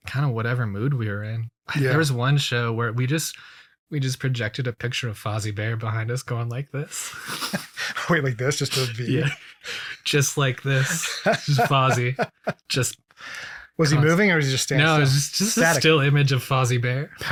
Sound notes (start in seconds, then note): 7.0 both laughing; 10.6 laughs